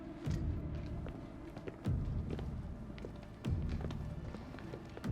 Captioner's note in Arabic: موسيقى متوترة; خطوات تبتعد